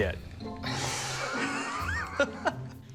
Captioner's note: laughter